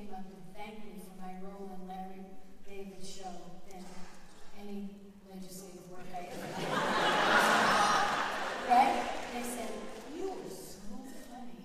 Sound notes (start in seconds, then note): 3.4 audience laughter